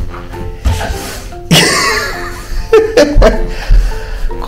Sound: laughs

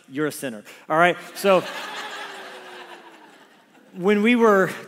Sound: congregation laughs

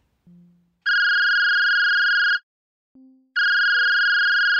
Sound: phone ringing

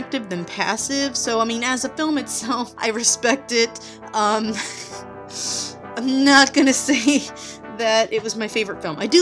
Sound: laughs

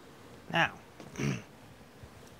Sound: clears throat

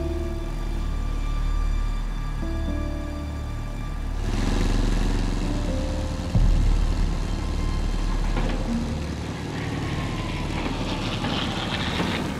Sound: planes whir

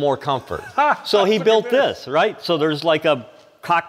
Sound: laughs

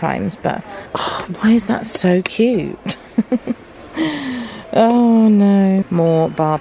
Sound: laughs

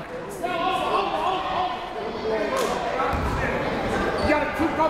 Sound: coach yelling

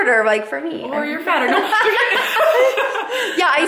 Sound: laughs

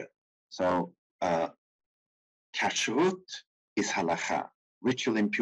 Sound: speaking in foreign language

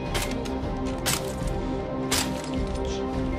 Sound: glass Breaks

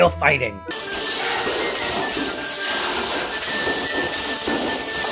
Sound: weapons clattering

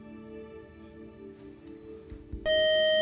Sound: time-is-up buzzer

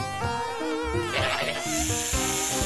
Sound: snake hisses

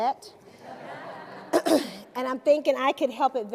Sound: laughter

